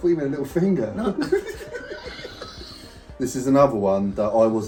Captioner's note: both laughing